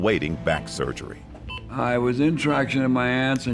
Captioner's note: medical machine beeping